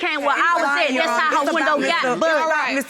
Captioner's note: all arguing